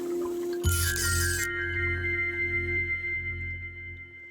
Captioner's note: camera flashing